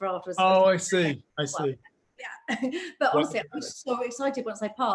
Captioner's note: laughs